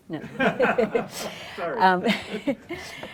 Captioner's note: laughter